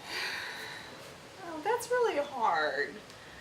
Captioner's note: sighs